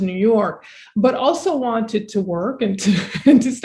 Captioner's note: chuckling